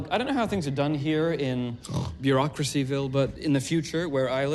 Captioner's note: snort